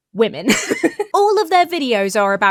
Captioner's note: laughs